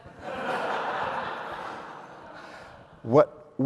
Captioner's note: audience laughs